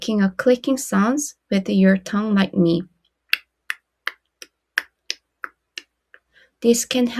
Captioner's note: tongue clicking